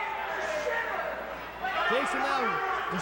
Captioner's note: crowd chatter